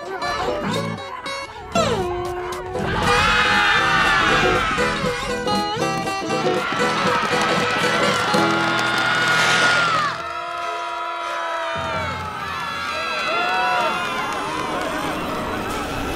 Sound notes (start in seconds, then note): 2.8 screaming; 6.4 screaming